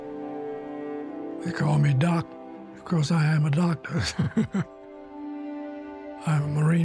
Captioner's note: laughs